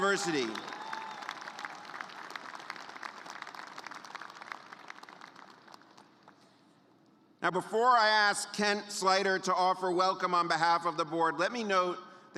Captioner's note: cheers and applause